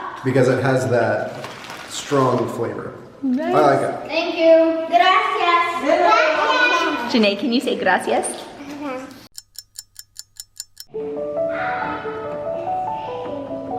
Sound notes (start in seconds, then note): 9.3 clock ticking; 10.9 piano music